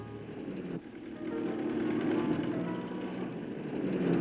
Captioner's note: engine revving